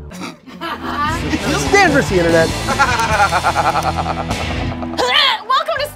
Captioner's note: upbeat music; laughing